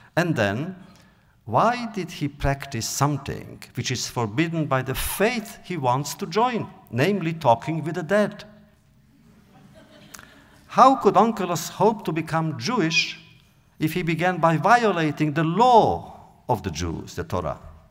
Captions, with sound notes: And then, why did he practice something which is forbidden by the faith he wants to join? Namely talking with the dead? (audience laughter) How could Onkelos hope to become Jewish if he began by violating the law of the Jews, the Torah?